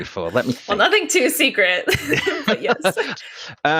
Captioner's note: laughing